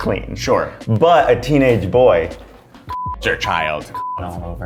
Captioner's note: beep